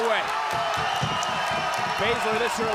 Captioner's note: audience cheering